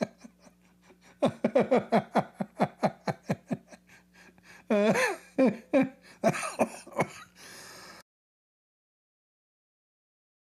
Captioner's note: Ketawa